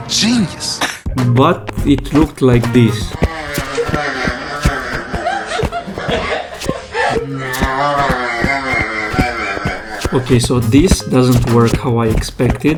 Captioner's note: laughing sound